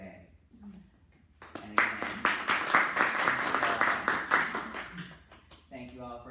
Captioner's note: clapping